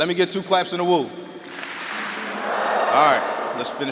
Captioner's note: audience clapping and wooing